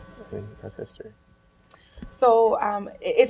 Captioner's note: murmuring